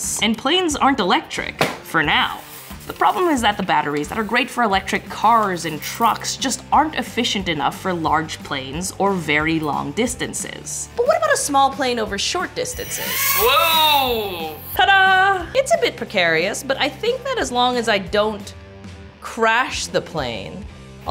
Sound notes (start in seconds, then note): 12.8 player plays revving sound